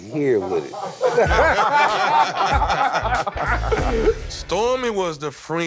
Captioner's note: laughter